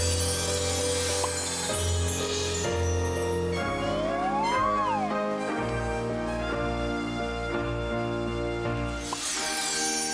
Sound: sparkling sound

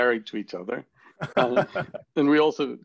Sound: laughs

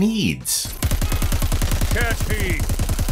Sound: guns fire

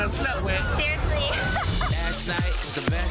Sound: laughs

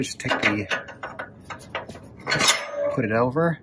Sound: metal clanks

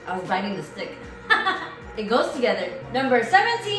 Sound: laughs

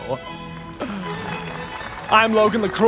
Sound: pretentious deep breath

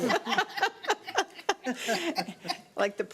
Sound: laughing

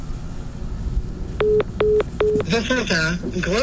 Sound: electronic beeping

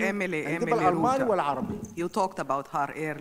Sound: speaks in foreign language

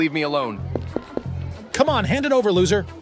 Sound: footsteps

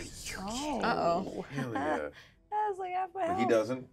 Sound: speaker chuckles

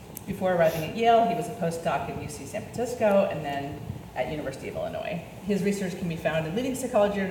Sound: none

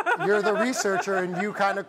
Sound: laughs

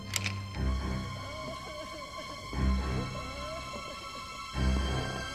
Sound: Paul sobbing

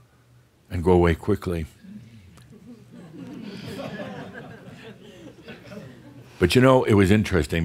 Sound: a few chuckles

